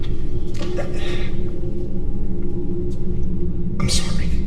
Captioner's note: Jack sighs